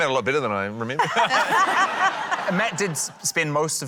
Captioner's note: laughter